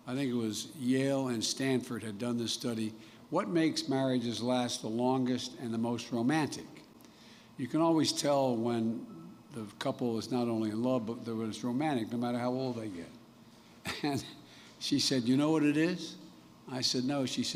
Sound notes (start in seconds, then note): 13.9 laughs